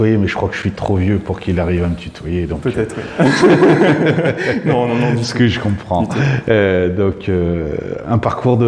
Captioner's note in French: rire